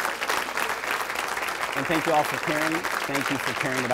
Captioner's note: applause